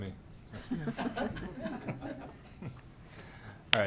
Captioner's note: laughing